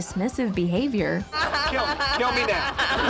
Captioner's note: braying laughter